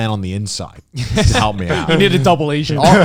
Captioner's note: Joey and Garnt laughing